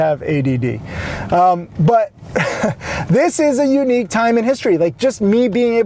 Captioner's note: laughs